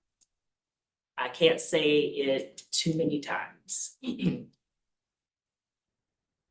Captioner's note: clears throat